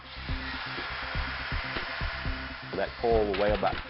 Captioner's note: machinery screeching